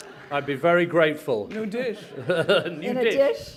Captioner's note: laughter